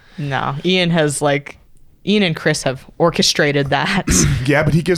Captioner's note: laughs